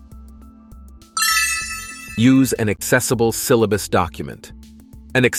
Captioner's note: idea cling